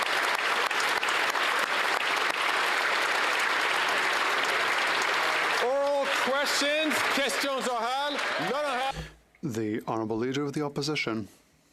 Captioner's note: applause